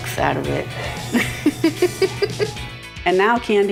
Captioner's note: laughs